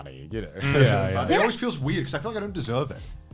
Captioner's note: group agreeing